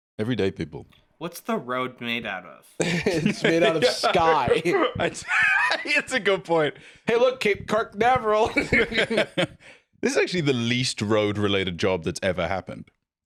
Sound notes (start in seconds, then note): 2.1 laughs; 8.4 both laugh